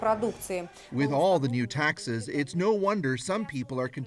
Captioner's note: speaking russian